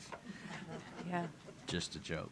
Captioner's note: laughter